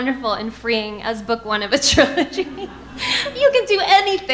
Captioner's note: laughs